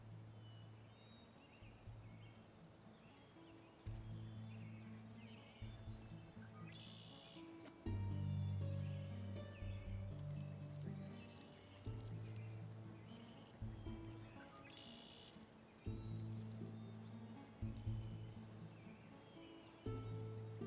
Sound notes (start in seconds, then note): 0.1 brooding acoustic music; 10.1 stones clack